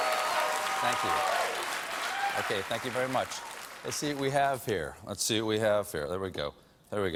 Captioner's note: cheers and applause